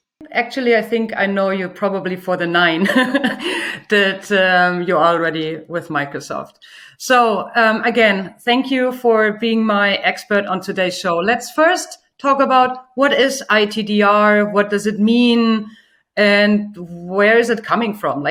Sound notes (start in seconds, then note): 2.8 laughs